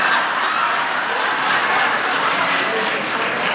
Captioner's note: laughter